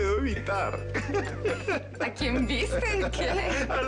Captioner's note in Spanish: Risas